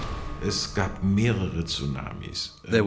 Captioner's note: speaking German